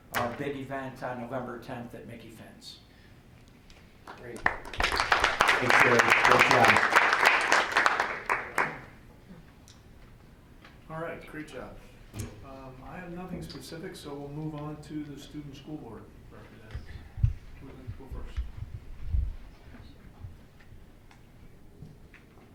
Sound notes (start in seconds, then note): 4.0 applause